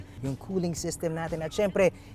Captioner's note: none